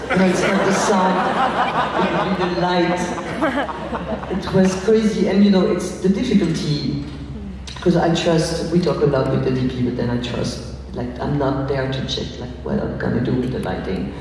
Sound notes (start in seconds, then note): 3.4 laughs